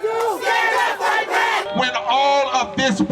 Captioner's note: crowd